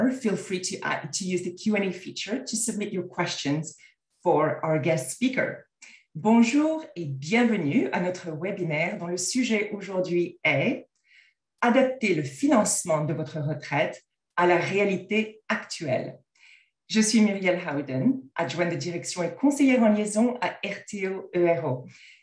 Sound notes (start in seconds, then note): 5.7 french